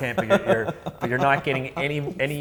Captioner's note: laughs